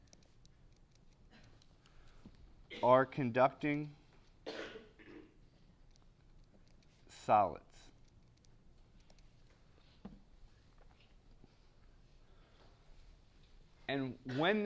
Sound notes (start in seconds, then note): 4.4 cough